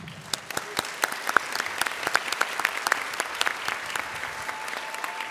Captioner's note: applause